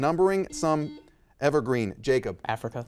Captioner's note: buzzer dings